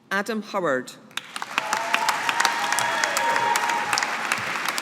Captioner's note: audience applauding